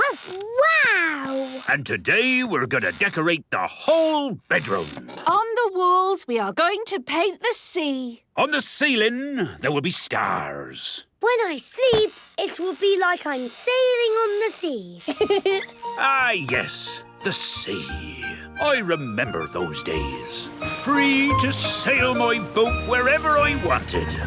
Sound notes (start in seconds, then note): 15.0 laughing